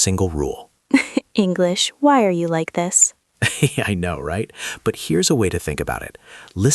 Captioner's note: laughs